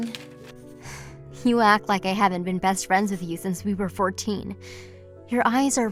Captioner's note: sigh